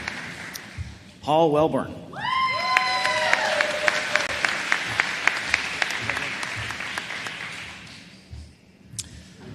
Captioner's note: applause